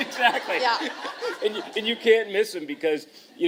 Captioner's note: laughter